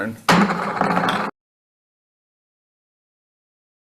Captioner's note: gavel bangs